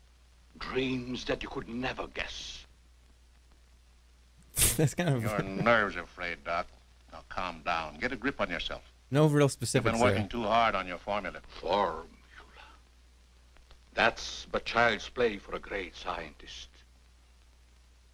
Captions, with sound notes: Well, I do dream, dreams that you could never guess. [scoffs] That's kind of... [chuckles] Your nerves are frayed, Doc. Now calm down. Get a grip on yourself. No real specifics here. You've been working too hard on your formula. Formula? That's but child's play for a great scientist.